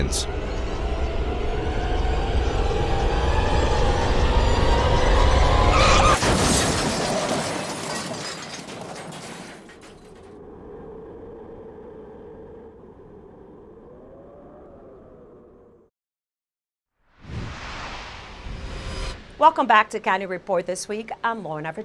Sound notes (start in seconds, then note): 6.8 tires screech